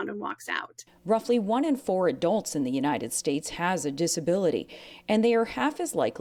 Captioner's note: voice-over